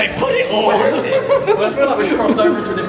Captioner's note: laughs